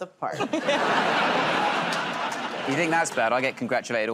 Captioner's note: laughter